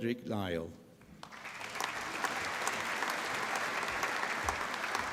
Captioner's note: applause